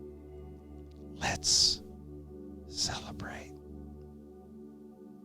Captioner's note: whispers